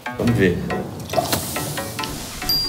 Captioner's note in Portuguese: barulho efervescente